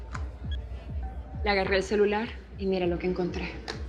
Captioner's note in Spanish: Bip